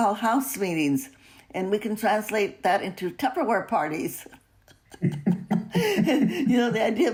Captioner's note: laughs